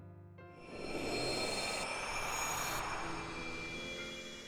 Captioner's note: whooshes